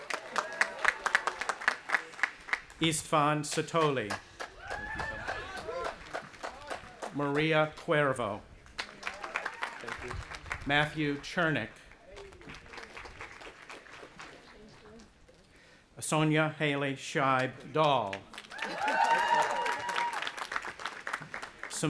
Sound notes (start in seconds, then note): 0.0 audience applauding; 4.5 cheering; 8.7 audience applauding; 12.0 audience applauding; 18.3 audience applauding and cheering